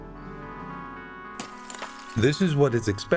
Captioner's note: gunshot